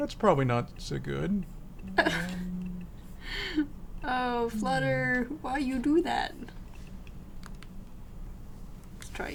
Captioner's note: laughs